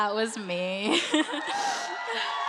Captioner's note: applause